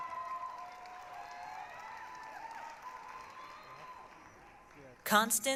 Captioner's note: applause, cheering